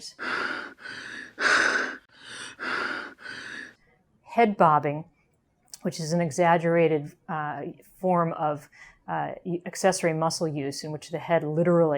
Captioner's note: gasping sound